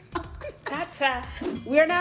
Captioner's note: sister giggles